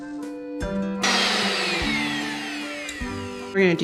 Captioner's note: blender whirs